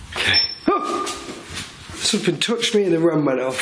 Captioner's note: murmurs; beeping; surprised yell